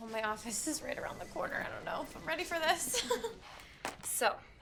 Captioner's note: laughs